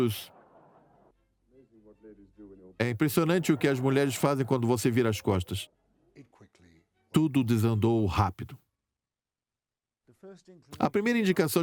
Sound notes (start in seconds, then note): 3.2 audience laughs